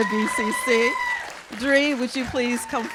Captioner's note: cheers and applause